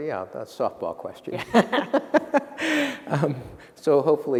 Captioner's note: laughter